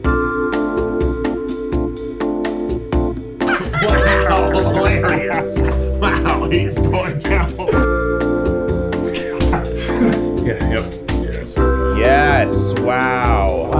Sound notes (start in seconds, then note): 3.4 laughing; 9.1 giggling